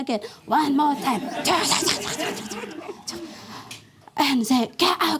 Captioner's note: mimics martial arts shouts